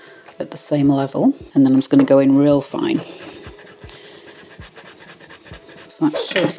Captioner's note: chop chop chop